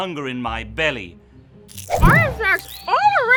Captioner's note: chewing